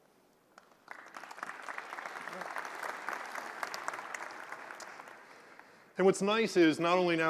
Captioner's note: applause